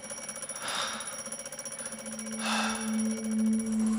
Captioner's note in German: Durchatmen, Wecker klingelt weiter